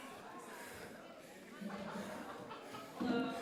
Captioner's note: attendees chattering